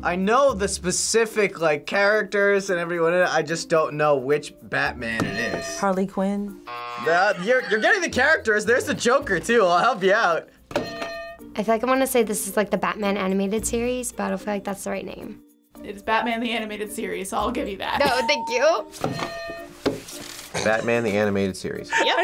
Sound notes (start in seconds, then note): 6.6 buzzer rings; 10.8 bell rings; 18.1 bell rings